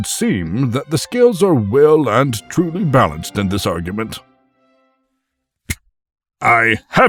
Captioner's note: snaps finger